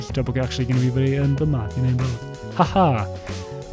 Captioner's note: smug laugh